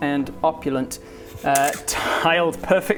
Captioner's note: click!